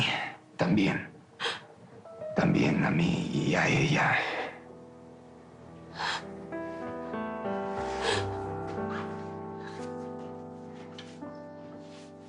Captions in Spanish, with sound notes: Y A MI... TAMBIEN. TAMBIEN A MI Y A ELLA. [Sollozos de Mónica]